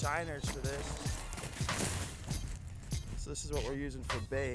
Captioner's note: snow crunches